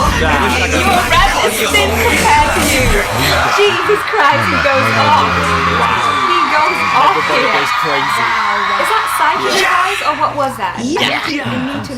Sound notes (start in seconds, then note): 4.1 cheering and applause; 9.4 shouts